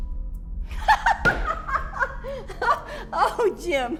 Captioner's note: laughs